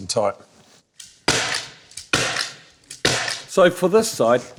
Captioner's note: stapling sound